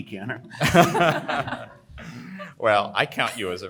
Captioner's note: all panelist laughing heartily